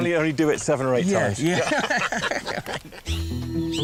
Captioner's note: laughter